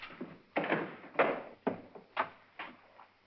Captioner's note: Emily's footsteps; heavy door opens